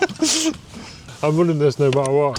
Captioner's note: laughs